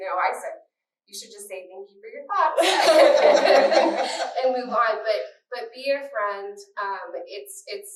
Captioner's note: laughter